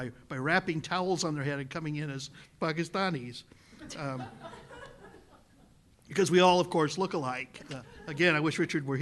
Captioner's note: laughter